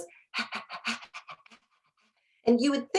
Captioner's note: mimicking a dog panting